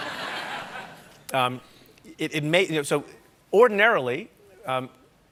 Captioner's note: laughter